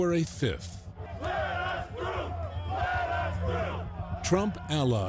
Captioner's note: crowd chanting